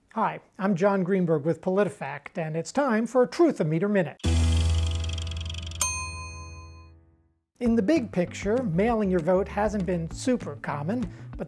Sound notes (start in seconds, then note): 4.2 dramatic note; 4.2 meter clicking; 5.9 meter dinging